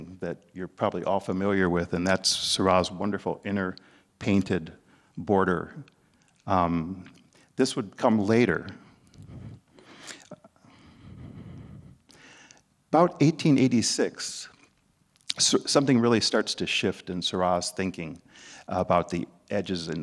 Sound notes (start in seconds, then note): 10.6 breathing soundly